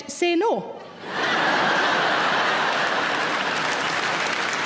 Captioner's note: audience laughing; audience clapping